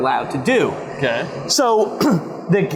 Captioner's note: traffic noise